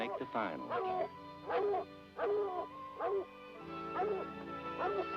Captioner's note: dogs barking